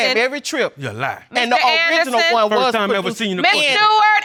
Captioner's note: clamoring; yells